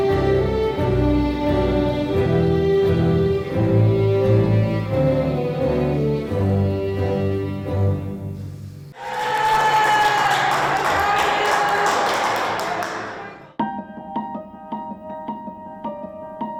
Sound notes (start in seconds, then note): 8.9 cheers, applause